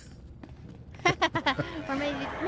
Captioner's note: laughter